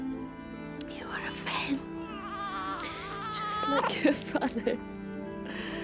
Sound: chuckles

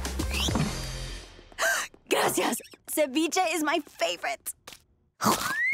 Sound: gasping

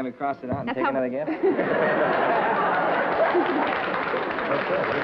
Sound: laughter and applause

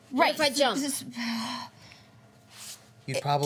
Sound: sighs

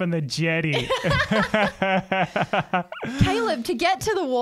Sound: laughs

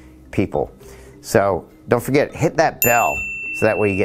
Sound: dings

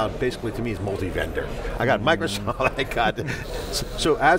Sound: chuckles

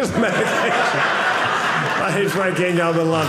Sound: audience laughing

